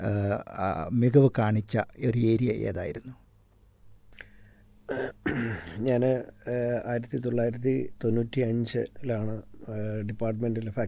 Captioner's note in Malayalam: തൊണ്ട ശരിയാക്കുന്നു